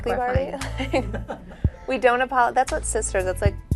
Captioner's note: Khloe chuckles